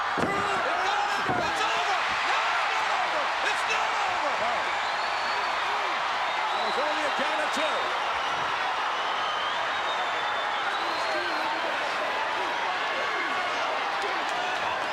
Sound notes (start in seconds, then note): 8.7 crowd cheering